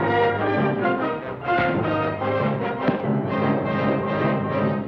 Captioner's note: thuds